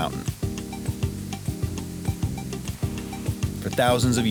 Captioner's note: water gushing